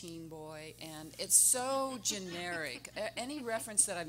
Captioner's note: everyone laughing